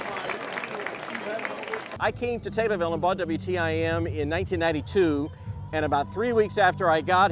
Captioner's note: applause